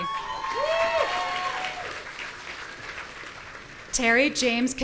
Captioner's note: audience cheering